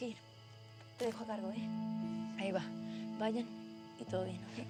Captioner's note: speaking spanish